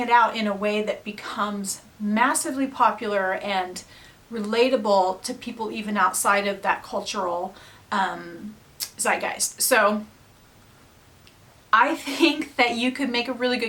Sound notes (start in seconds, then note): none